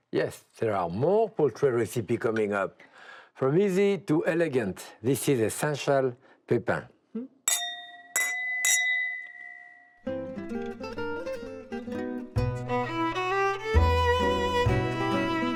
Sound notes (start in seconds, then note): 7.4 glasses clinking; 10.1 upbeat string music